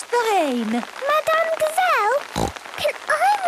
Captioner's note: snorting